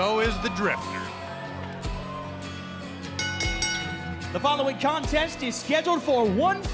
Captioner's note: bell ringing